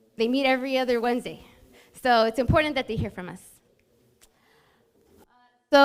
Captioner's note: none